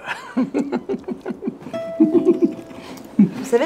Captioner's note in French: rires